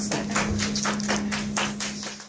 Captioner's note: applause